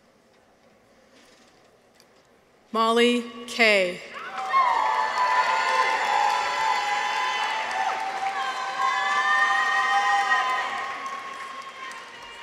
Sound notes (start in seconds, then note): 4.1 people cheer; 4.2 audience applauds